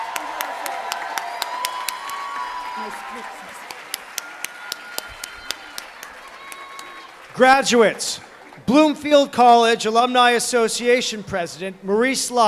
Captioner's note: applause